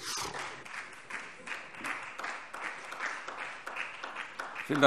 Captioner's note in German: Beifall SPD